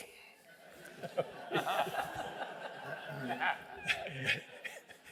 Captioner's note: laughter